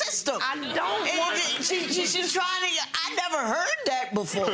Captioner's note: audience laughs